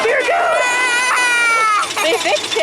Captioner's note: screams; laughs